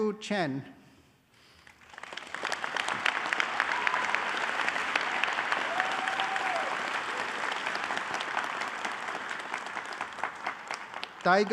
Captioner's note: applause